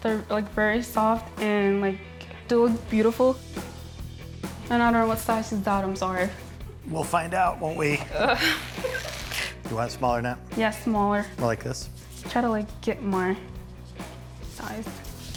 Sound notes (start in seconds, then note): 3.7 upbeat music; 7.7 laughing